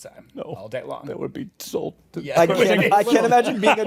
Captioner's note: laughter